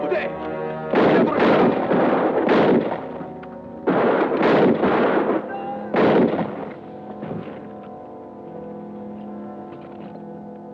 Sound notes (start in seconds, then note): 0.2 man speaking Japanese; 3.8 gunshots blasting